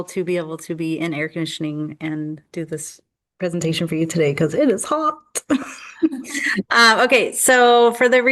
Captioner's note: laughter